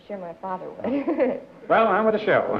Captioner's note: laughter